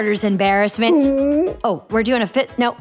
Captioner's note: whimpering